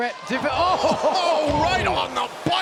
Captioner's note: groan